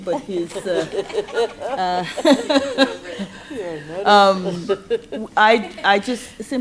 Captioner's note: laughter